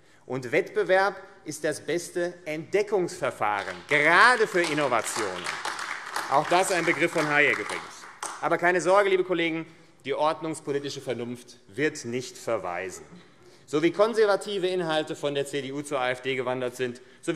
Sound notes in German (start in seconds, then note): 5.6 Beifall AfD